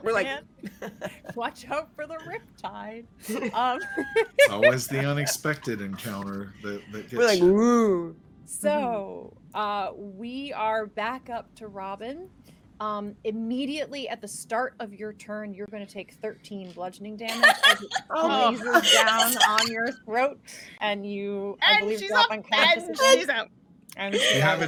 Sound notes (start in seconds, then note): 3.2 laughs; 17.3 Robin laughing